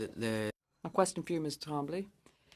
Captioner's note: speaking French